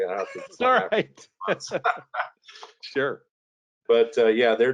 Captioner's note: laughing